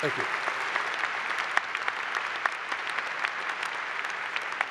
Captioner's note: applause